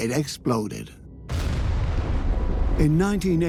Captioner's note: sound of explosion